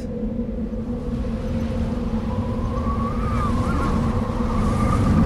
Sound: wind howling

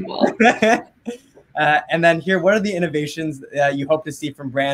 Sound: laughs

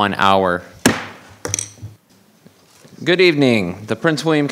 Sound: gavel banging

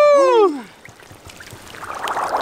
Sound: bubbling and gurgling

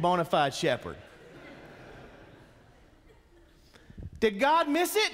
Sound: congregation chuckles

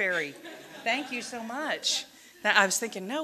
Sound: audience laughing

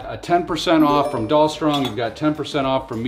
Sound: message tinkles

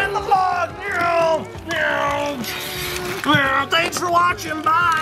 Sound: car noises

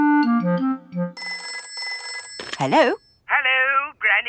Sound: telephone ringing

